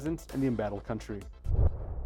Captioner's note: swoosh